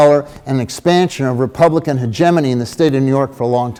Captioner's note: none